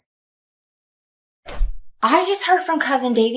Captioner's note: door slams shut